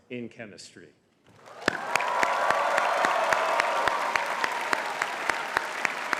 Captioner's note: audience cheering and clapping